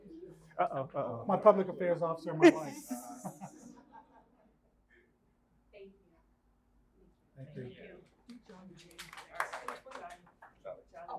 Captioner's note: laughter